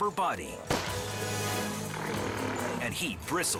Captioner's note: gun pops